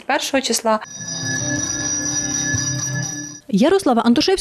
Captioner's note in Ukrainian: лунає дзвоник